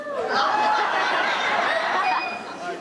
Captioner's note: laughter